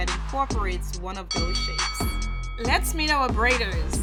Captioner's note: boxing bell dinging